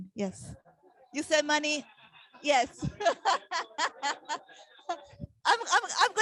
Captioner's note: laughing